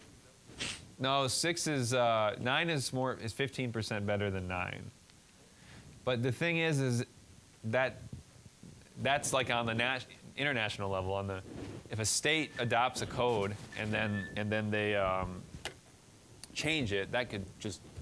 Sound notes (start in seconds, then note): 13.7 phone chiming